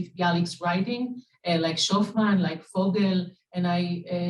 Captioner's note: Hebrew; Hebrew